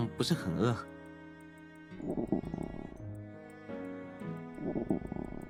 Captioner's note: stomach grumbling noises